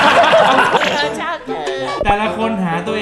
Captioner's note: Imitating Mama